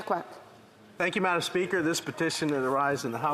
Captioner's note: speaking French